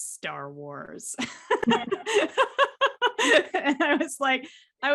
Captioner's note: both laughing